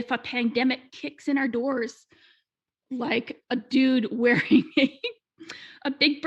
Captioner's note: laughing